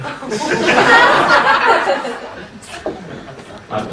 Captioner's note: laughing